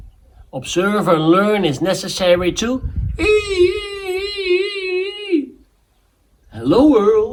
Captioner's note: shreeking sounds